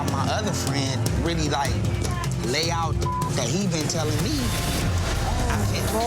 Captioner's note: beep